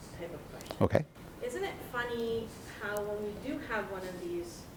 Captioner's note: voiceover